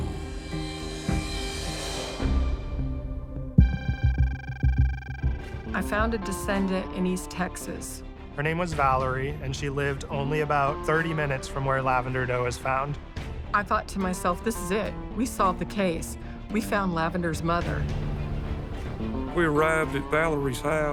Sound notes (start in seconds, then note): 0.1 mysterious music; 3.6 digital beeping